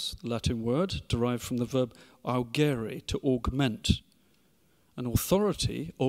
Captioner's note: speaks foreign language